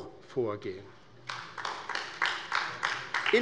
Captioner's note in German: Beifall bei der LINKEN